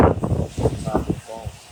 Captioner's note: wind rustling